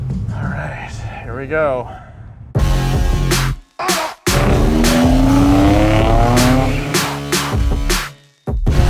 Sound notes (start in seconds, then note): 2.6 rap music; 2.7 car engine roars